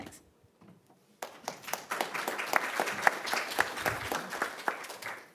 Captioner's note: audience claps